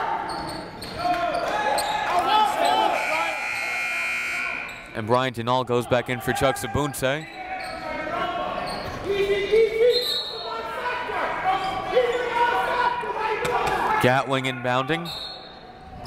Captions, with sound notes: (buzzer) And Brian Dinnall goes back in for Chucks Obunse. (whistle) Gatling inbounding.